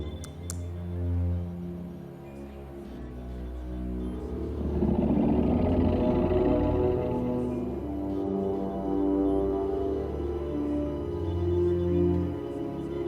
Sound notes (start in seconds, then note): 4.3 low growl